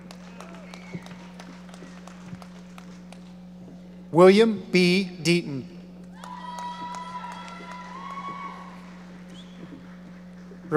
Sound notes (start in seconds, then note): 0.0 audience applauding; 6.1 audience cheering